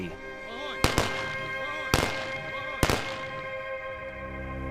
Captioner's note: salutary gunshots